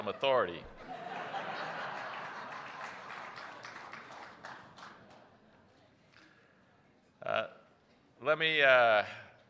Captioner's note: laughter; applause